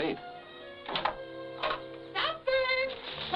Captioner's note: door creaking